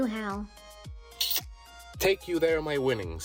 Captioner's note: smoochies